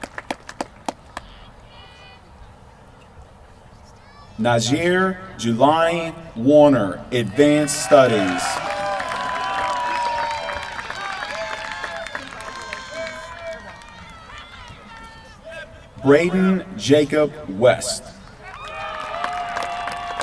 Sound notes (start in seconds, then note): 8.0 applause; 18.3 applause